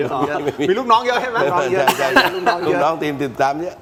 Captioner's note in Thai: เสียงหัวเราะ